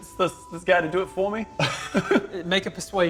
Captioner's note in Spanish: Risas